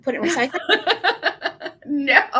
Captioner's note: laughing